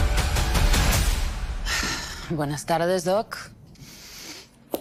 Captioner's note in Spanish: Suspiro